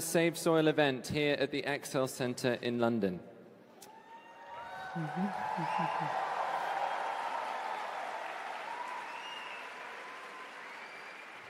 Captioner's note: cheering/Applause